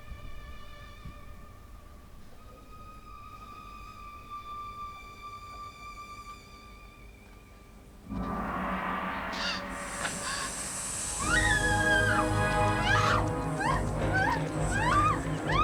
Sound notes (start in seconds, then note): 11.8 screaming